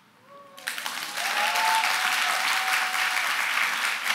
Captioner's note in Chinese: 掌聲